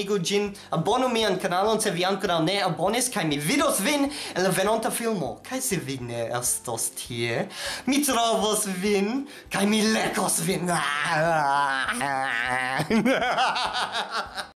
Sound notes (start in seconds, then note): 12.7 scary laughs